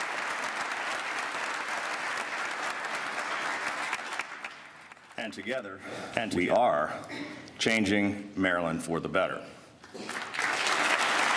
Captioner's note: applause